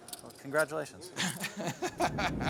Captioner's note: laughs